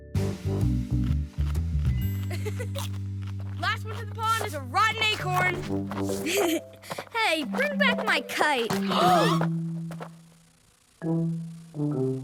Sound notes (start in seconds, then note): 2.3 giggling; 6.2 giggling; 8.7 gasping